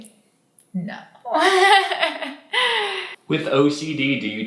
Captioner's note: laughs